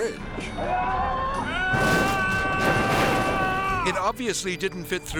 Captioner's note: man yelling; fridge crashing